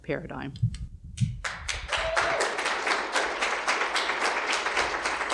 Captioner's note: audience clapping